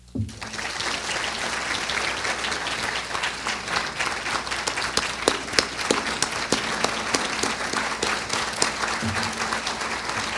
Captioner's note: applause